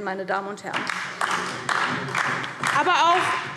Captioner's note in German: Beifall DIE LINKE